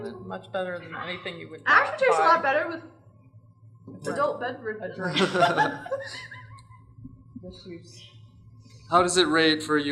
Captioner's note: laughter